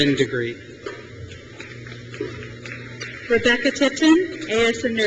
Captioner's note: crowd cheers